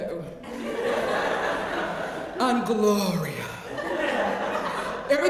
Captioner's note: laugh